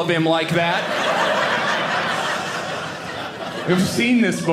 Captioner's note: audience laughing